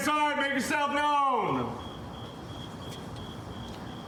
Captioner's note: crickets chirping